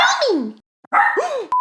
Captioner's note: Butters barks